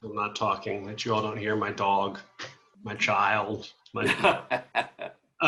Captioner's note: laughs